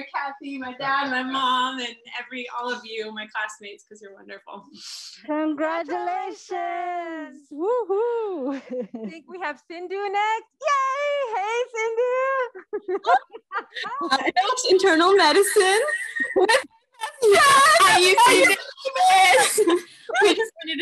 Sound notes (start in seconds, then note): 8.4 chuckles; 17.2 cheering